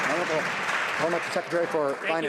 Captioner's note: some Applause